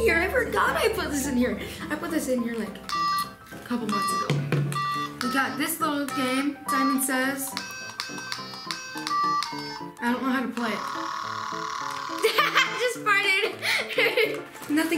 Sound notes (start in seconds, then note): 6.6 beeping; 12.2 laughing